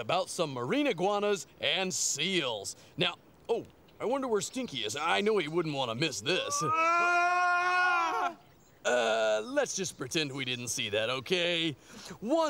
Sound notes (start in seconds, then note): 6.8 Stinky & Yves yelling